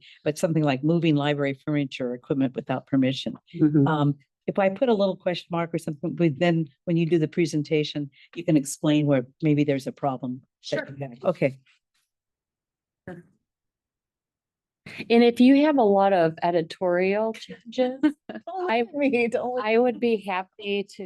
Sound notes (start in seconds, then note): 18.0 board member laughs